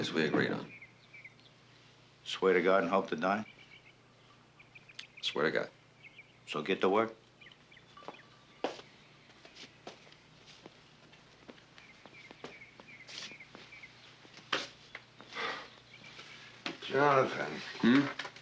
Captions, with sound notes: agreed on. Swear to God and hope to die? Swear to God. So get to work. [sigh] Jonathan. Hm?